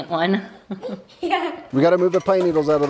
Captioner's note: laughs